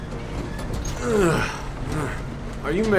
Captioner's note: groans